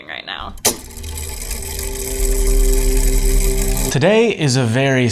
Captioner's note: mechanism whirring